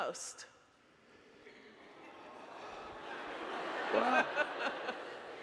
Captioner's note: audience laughing